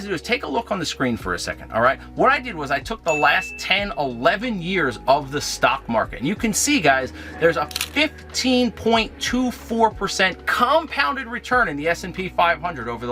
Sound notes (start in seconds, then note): 3.0 bell dings; 7.6 camera shutter clicks